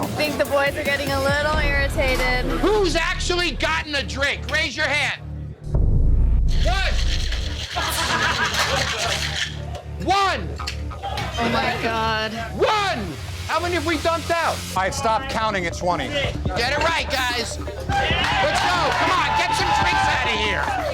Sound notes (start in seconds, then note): 7.1 laughter; 17.8 cheering